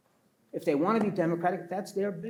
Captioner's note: pats table